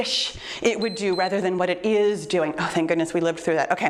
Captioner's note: timer beeps